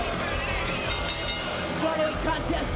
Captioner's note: bell dings